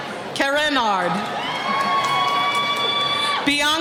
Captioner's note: cheering